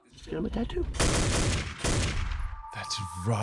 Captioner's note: gunshots